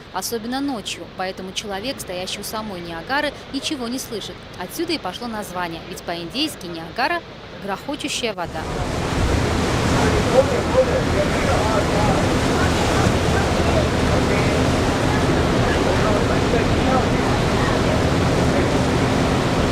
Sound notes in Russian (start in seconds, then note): 8.4 шум водопада